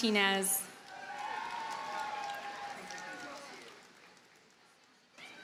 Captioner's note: audience cheers and applauds